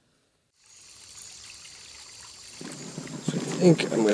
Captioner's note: creek trickling